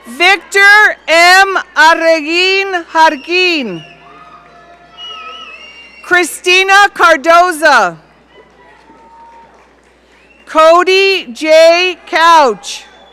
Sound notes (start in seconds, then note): 3.1 audience cheering; 7.9 audience cheering